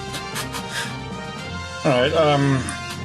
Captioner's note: laughs softly